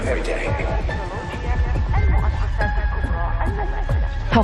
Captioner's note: arabic announcements